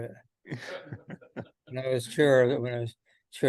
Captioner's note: panel laughs